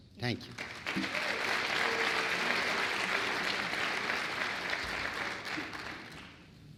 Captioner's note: applause